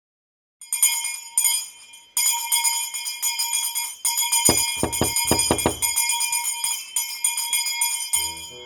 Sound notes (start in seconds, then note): 0.0 bell rings; 4.5 knocks; 6.4 bell rings